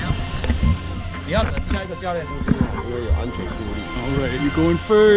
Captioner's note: man speaking Mandarin